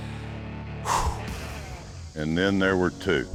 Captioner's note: exhales